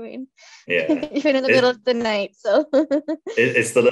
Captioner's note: laughs